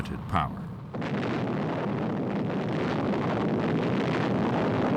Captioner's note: explosion